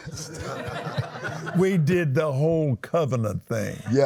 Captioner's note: laughs